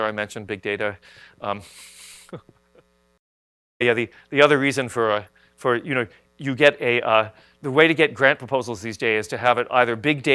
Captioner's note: laughs